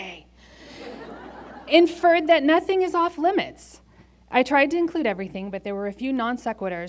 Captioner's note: laughter